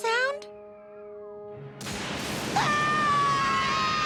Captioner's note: thunder crashing